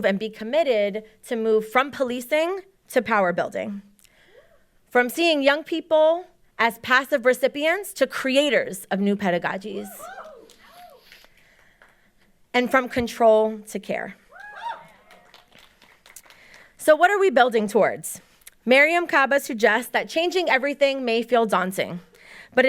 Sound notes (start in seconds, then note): 9.8 audience cheering; 14.3 audience cheering